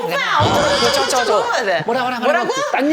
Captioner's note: literally chattering away